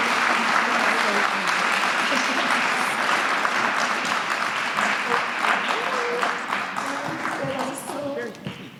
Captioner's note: applause